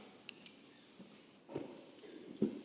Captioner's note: none